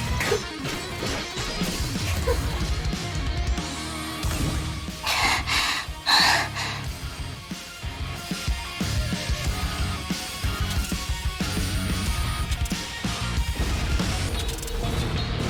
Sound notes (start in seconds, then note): 5.0 panting